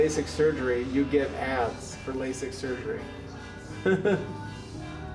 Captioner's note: laughs